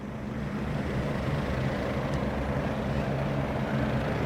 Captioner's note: airplanes roaring